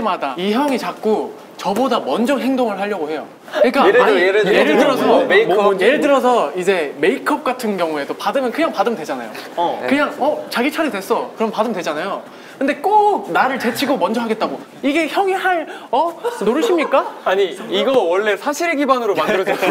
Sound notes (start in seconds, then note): 3.3 argh